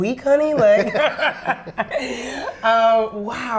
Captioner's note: laugh